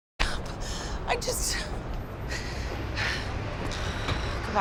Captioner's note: sighs